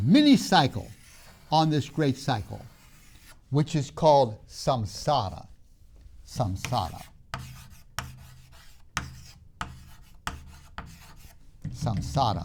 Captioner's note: marker writing on board